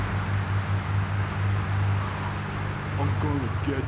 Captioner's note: tires screeching